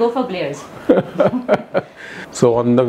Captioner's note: Laughing